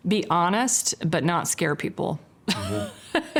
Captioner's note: laughs